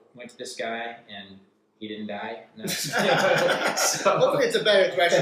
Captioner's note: laughter